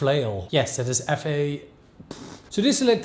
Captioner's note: blows air